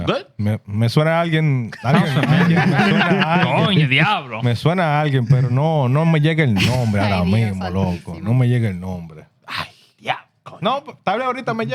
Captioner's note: speaking In Foreign Language